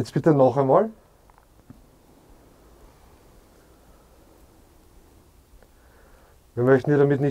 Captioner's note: silence in the background